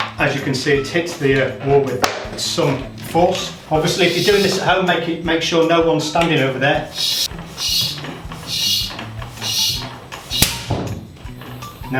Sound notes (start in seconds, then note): 6.6 air pumping; 9.7 plastic crackling